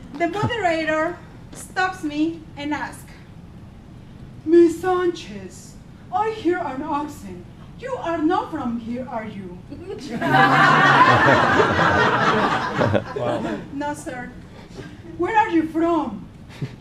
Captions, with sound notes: The moderator stops me and asked Miss Sanchez I hear an accent, you are not from here. Are you? (laughing) No, Sr. Where are you from?